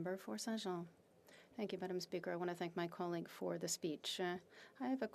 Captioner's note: speaking French